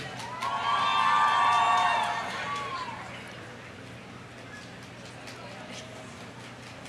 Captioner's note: audience applauding; audience cheering